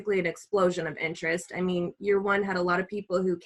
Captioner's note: none